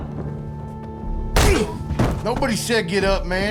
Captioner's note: smack